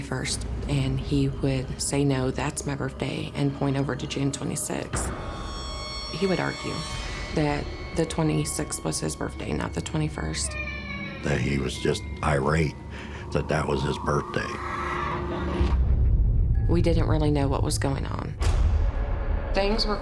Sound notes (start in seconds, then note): 14.4 crying